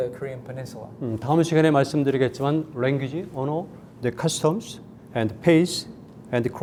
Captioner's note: speaking in Korean